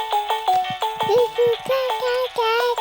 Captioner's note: mobile playing loud music; cooing